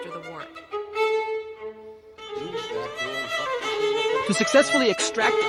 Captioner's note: German language